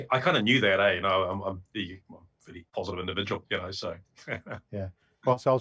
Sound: laughs

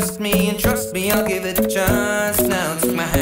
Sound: mmmm

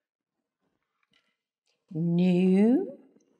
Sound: none

